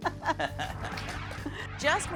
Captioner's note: laughter